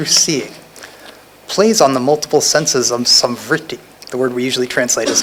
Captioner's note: non-english